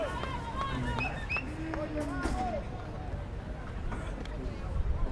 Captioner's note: fans yelling